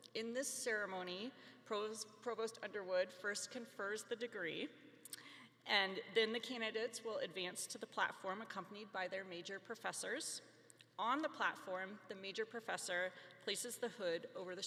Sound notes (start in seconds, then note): none